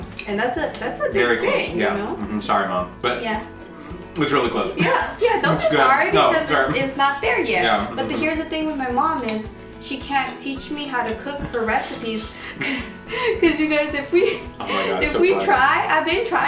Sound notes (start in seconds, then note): 4.8 laughs; 12.4 both laugh